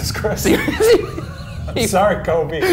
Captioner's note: laughter